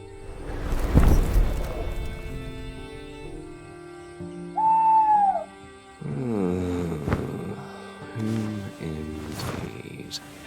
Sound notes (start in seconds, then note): 4.4 Qornelius HOOTS; 6.1 uri groans